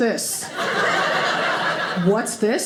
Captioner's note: audience laughing